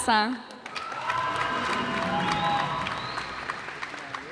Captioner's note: cheers and applause